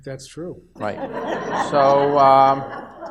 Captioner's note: audience laughs